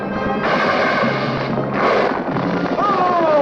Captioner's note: creature hissing; Sam moaning